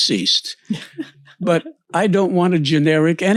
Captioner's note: laughs